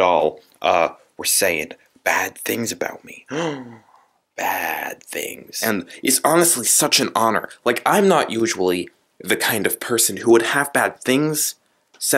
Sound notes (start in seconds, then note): 3.3 gasp